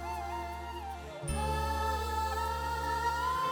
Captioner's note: emotive vocalisation